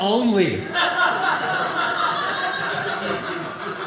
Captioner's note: audience laughing